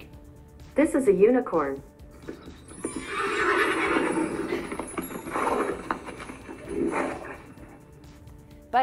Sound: unicorn sounds

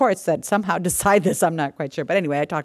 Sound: laughs

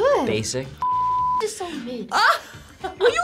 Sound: beeps; laughs

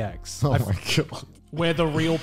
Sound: laughs

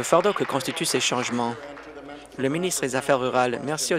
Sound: applause

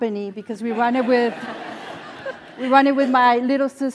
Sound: laugh

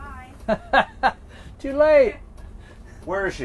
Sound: laughing

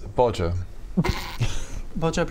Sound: snickering

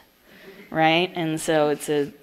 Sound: audience laughs

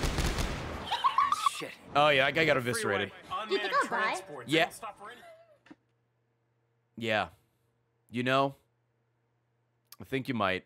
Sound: laughs

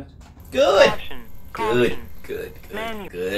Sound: app Voice

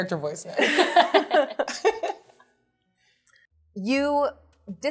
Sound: participants laughing

